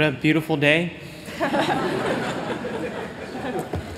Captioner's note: laughter